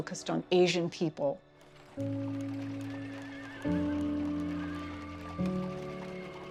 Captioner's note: horse whinnying